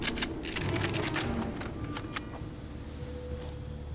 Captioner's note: guns cocking